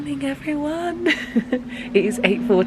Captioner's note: giggles